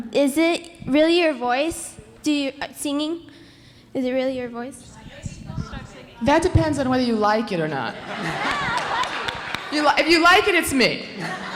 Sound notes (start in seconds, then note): 5.3 indistinct conversation; 7.8 audience laughing